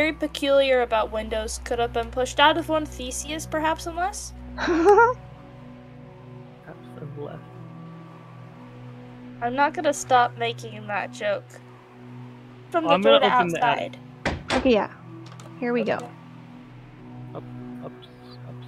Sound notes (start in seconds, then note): 4.6 giggles; 15.1 door unlocks